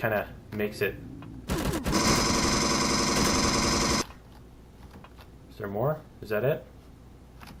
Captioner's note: alien gunfire; pulse rifle